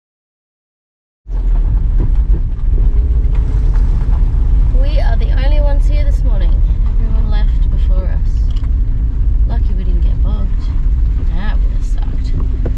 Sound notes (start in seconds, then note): 1.5 engine noise as the van bumps along on the rough road